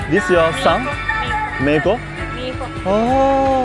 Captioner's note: Spanish